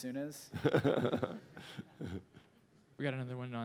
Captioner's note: laughter